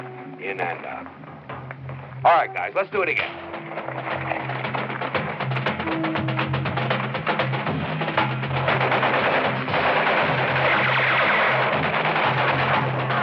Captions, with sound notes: In and out. All right, guys, let's do it again. [fast-paced action music] [gunshots] [bullets whistling]